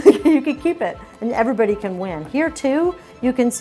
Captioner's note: laughing